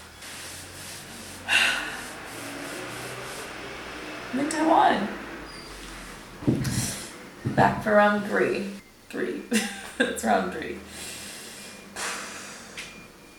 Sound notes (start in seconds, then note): 1.4 sighs; 2.2 vehicle sounds in distance; 6.5 sucks through teeth; 9.5 laughs at self; 12.0 sighs extensively